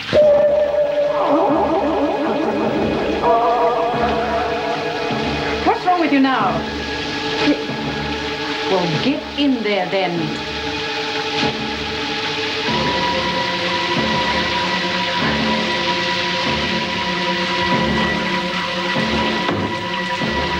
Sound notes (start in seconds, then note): 0.3 groaning in pain; 3.1 gags